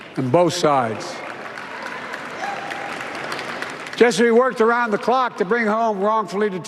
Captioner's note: applause